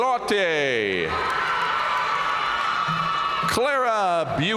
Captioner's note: audience cheering and applauding